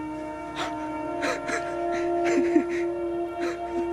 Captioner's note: joyful laughing; dramatic music